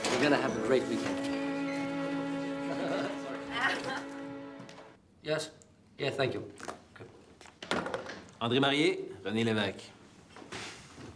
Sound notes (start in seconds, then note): 0.0 warm music continues; 2.5 laughs; 2.6 Louise laughs